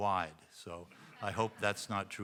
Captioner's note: audience chuckling